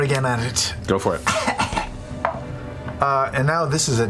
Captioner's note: weak coughing